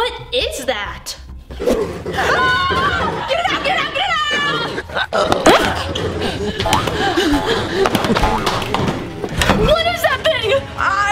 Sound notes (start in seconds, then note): 2.3 both shouting